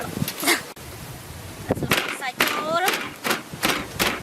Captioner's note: pounding kaffir lime leaves